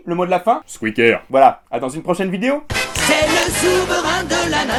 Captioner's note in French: Clic